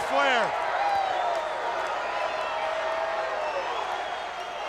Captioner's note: crowd cheering